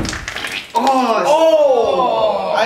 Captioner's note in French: gémissements